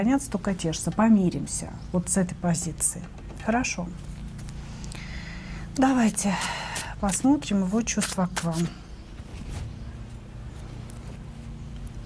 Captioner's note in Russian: вздыхает